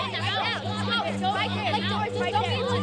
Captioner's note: kids taunting